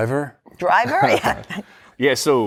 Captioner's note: laughter